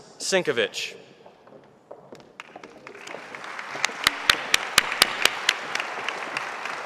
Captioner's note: audience applauding